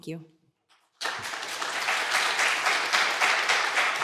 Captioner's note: applause